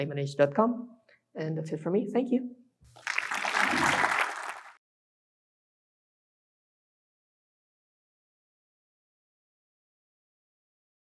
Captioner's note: applause